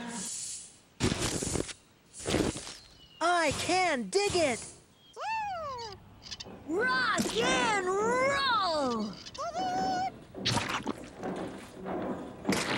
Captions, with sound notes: I CAN DIG IT! ROCK AND ROLL! TOOT-TOOT! ( Splat! )